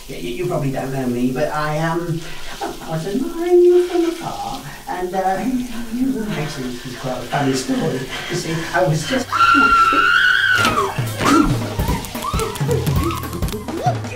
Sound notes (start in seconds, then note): 7.2 panting; 9.3 screams